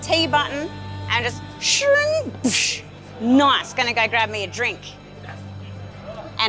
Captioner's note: teleport noises